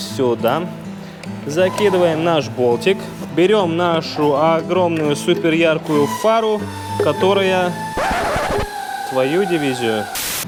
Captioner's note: swears